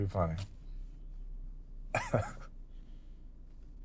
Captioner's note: chuckling